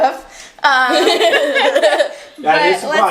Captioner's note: both laughing